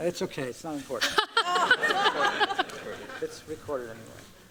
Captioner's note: laughter